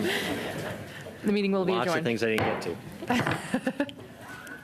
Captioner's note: laughter